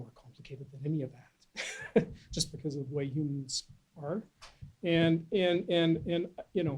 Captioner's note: laughs